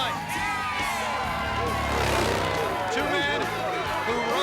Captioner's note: engine revving